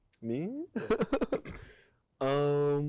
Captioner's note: laughing